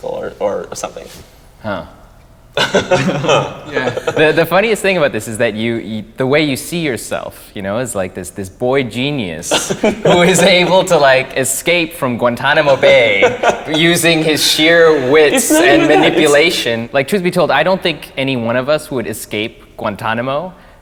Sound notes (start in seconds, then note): 2.6 both men laugh